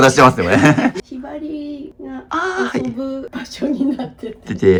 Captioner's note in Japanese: 笑い